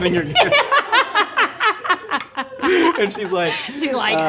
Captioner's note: laughing